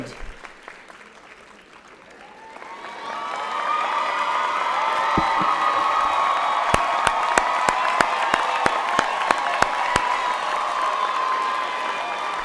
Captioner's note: applause and Cheers